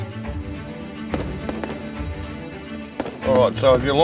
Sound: fireworks exploding loudly

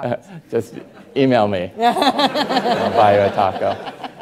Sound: Rachel laughing

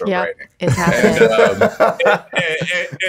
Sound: Justin laughing

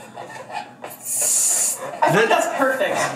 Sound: air hissing

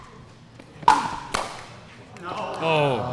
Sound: ball bouncing

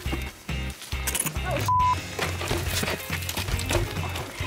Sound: beep

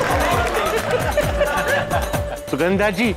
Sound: applauding; laughing

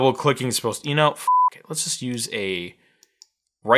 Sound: beep

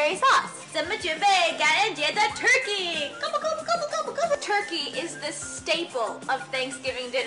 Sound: speaks in Mandarin

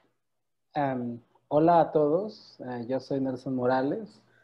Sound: in Spanish

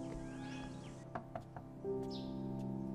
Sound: door knock

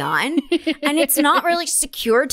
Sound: laugher

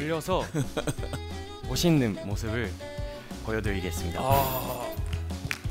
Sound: in Korean

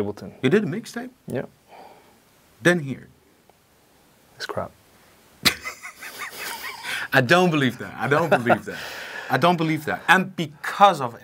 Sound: laughing

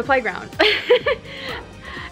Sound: laughs

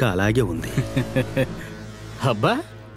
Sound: laughs

